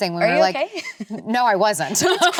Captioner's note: laughs